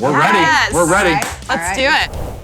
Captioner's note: clap